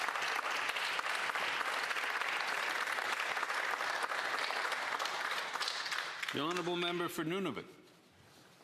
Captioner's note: applause